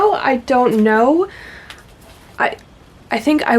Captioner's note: stammering